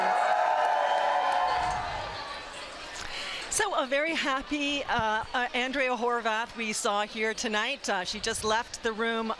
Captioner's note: applause and cheering